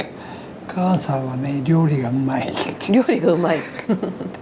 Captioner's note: laughs